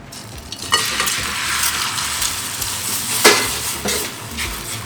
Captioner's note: sizzling